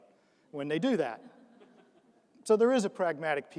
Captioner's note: audience laughs